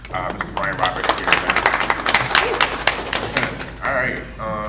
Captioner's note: audience clapping